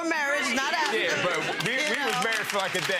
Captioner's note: audience clapping